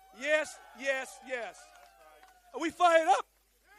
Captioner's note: applause